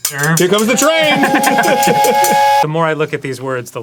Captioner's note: steamwhistle sound effect